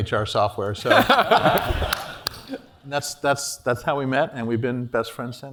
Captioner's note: laugh